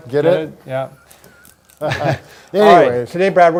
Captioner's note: laughs